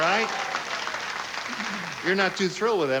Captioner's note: scattered applause